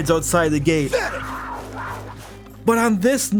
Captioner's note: cougar Growlsi